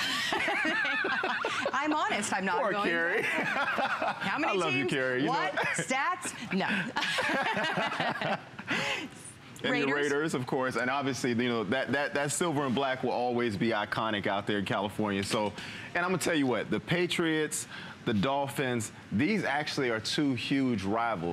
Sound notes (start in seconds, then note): 6.2 laughter